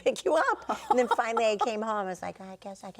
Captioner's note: laughing